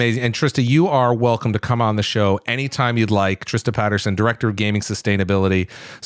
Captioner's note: none